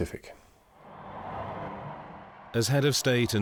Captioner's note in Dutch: publiek juicht